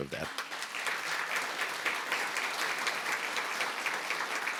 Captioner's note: applause